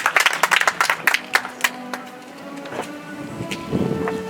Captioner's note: audience applauds